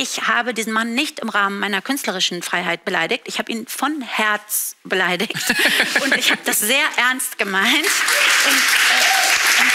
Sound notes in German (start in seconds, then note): 5.3 Lachen; 7.4 Applaus, Jubel